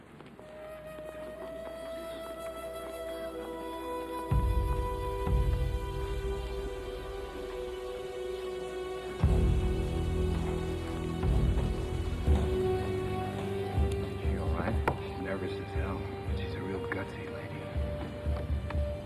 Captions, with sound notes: (suspenseful music) (feet clacking) - Is she all right? - She's nervous as hell. She's a real gutsy lady.